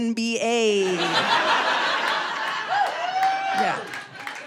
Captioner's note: audience laughing